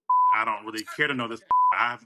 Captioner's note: beep